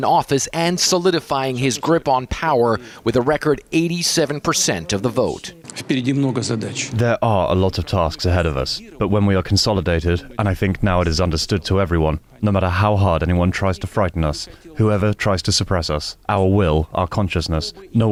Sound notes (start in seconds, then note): 7.7 through translator